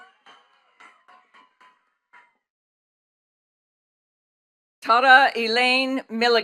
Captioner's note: attendees cheering and clapping